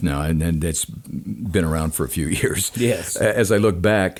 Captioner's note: chuckles